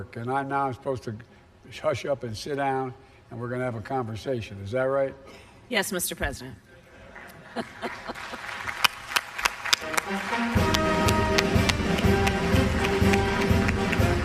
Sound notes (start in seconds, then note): 7.1 laughter and applause; 10.6 music and applause